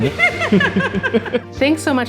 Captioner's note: laughter